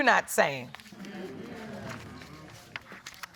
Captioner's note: audience agreeing